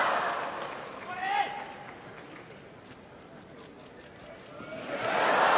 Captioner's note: audience cheering